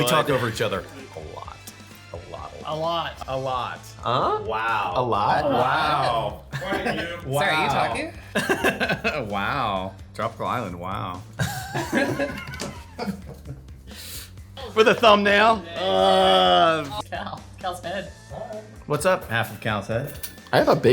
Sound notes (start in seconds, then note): 11.3 all laughing